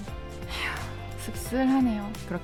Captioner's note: deep sigh